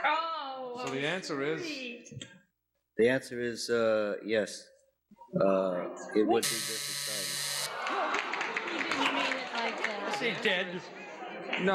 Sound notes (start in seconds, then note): 6.4 alarm buzzes